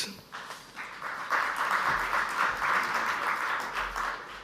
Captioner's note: audience applauds